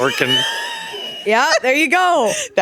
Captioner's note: laughing